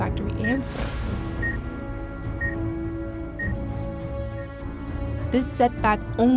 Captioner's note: dramatic music; machine beeping